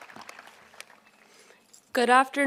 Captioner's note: applause